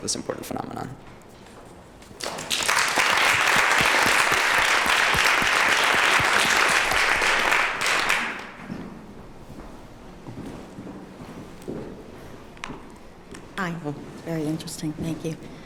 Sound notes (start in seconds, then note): 2.1 applause